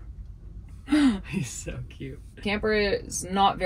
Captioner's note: chuckling